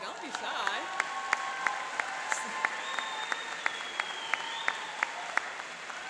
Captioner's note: applauding and cheering